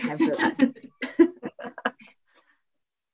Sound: laughs

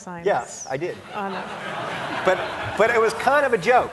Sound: audience laughing

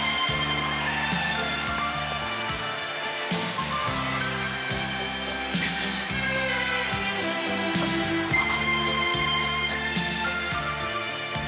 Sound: applause

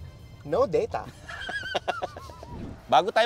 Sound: laughs

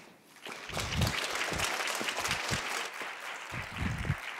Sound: applause

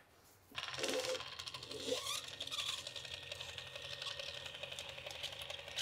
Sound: electric caulking gun humming

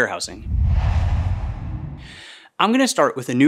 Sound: logo swooshes

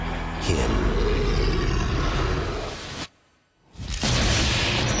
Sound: growls; intense music

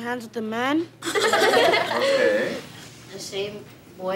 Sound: laughing

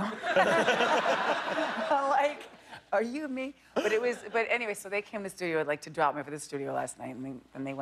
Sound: laughter

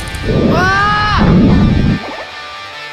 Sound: screaming before the drop

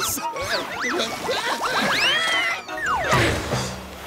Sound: screaming

